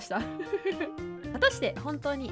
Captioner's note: laughing